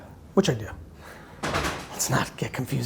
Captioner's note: laughs